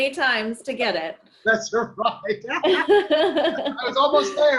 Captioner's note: laughing